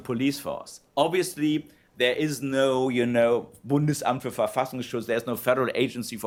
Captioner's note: non-english speech